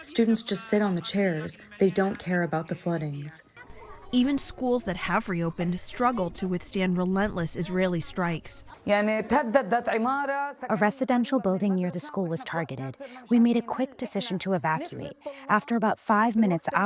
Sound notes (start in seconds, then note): 11.2 through translator